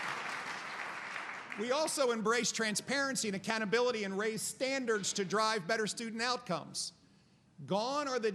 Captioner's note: applause